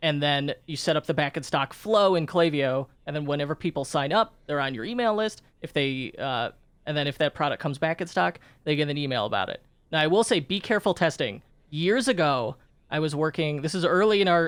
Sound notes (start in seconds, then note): none